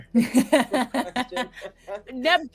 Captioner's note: laughing